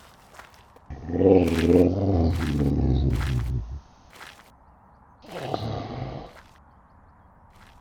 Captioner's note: bear grunting